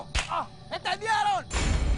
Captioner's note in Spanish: Quejidos